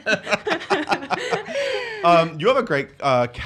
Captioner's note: laughs